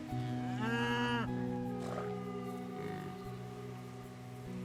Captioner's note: cows lowing